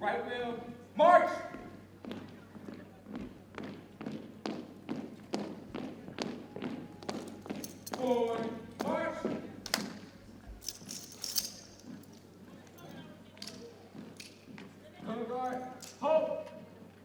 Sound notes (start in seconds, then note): 4.0 boots thumping; 10.6 metal rattles